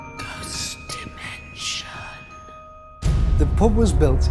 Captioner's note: ghostly Voice